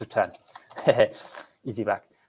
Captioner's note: laughs